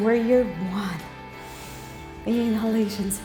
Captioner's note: breathing